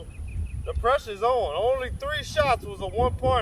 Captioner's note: none